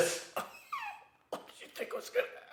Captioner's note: man coughing